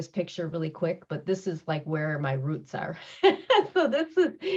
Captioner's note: laughs